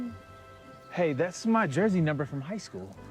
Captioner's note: none